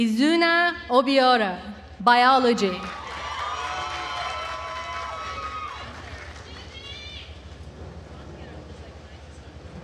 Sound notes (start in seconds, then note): 2.8 attendees cheering and applauding